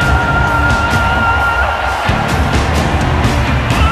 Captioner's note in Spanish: Ovación